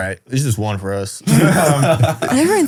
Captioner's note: group laughs